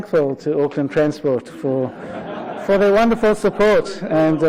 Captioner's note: audience laughter